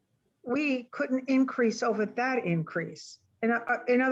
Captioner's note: woman Speaking